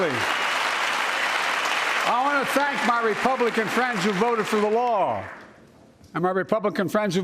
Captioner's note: cheers and applause